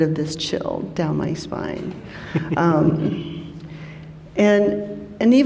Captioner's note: chuckles